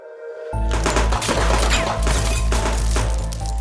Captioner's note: glass breaking; gunshots; bullets ricochet; wall debris falling